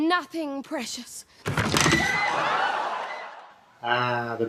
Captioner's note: creaks and screams